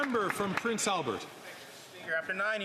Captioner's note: some Applause